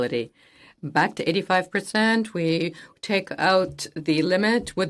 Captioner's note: speaking French